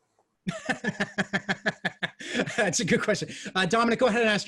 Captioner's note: laughs